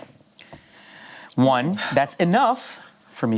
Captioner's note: sighs